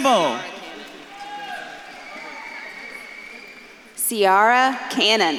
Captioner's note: audience claps and cheers